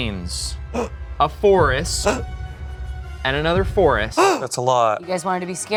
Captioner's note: gasping